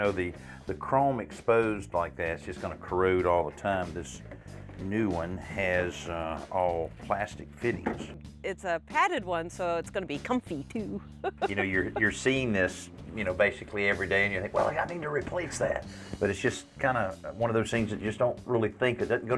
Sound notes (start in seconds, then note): 10.9 chuckles